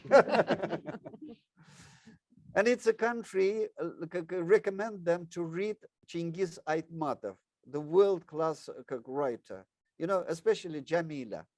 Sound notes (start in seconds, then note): 0.0 laughs; 5.9 speaks in foreign language